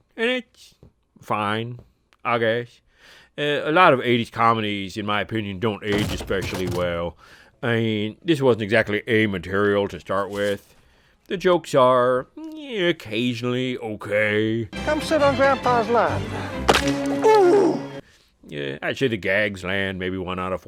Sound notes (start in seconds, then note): 17.1 comedic groan